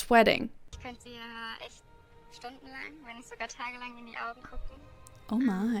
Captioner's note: speaking in German